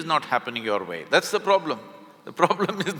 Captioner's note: laughs